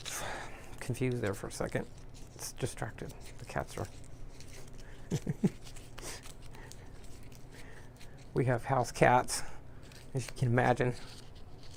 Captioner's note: laughing